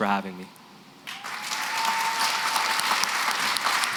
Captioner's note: applause